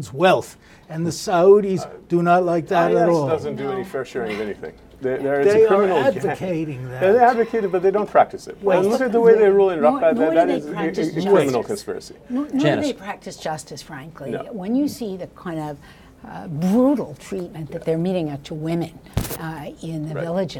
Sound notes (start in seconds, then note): 7.9 mixed voices